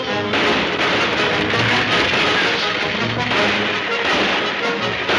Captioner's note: gunshots banging